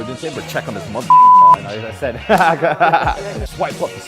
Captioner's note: laughing